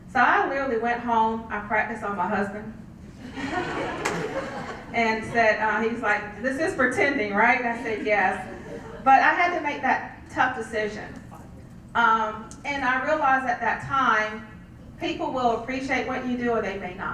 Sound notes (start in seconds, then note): 3.2 laugh